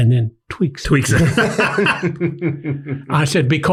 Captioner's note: everyone laughs